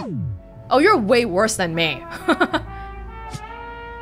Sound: chuckles

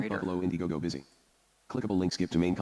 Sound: computer Voice

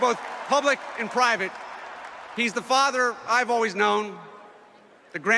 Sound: cheering and applauding

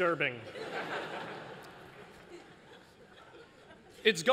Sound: laughter

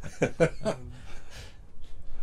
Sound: laughter

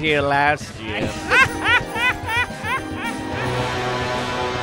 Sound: Joker laughing

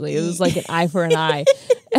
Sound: laughs

